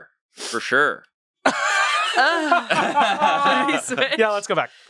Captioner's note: everyone laughs